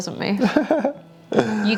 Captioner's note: laughing